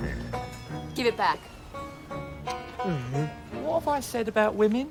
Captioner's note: groans